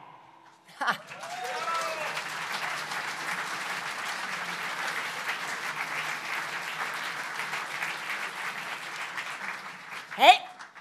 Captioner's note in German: Applaus